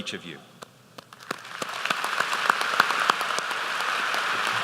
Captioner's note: applause